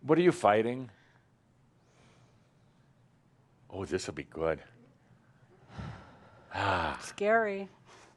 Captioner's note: she sighs